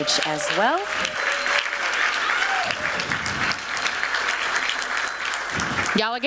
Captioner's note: applause